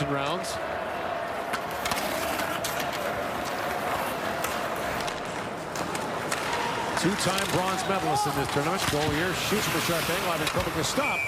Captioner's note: whistle blows